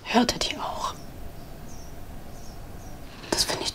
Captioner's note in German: Vogelzwitschern